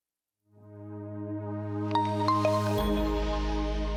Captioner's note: logo chiming